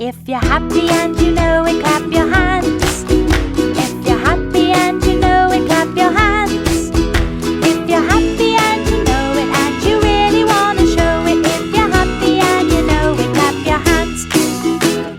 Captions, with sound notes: If you're happy and you know it, clap your hands, (clap clap) If you're happy and you know it, clap your hands, (clap clap) If you're happy and you know it, and you really want to show it, If you're happy and you know it, clap your hands. (clap clap)